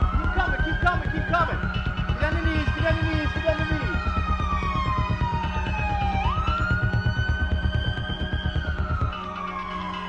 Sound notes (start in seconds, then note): 4.2 sirens blaring continues; 4.2 suspenseful music continues